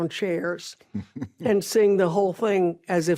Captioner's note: ben chuckles